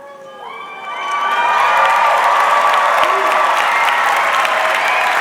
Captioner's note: audience clapping